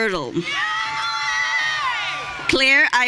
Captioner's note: audience cheering